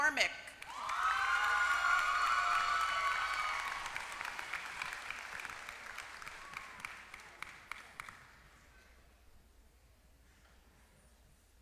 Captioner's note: applause